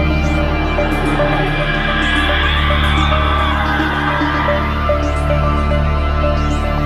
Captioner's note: faint, long scream echos